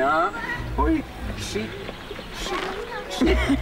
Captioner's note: woman laughs